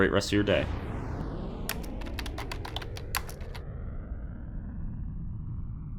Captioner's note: keyboarding clicking